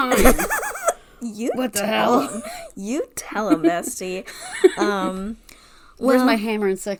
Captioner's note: laughs